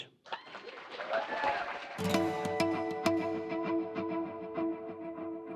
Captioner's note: applause